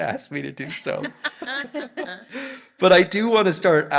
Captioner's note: panelists laughing